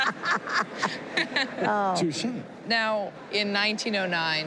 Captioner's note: laughter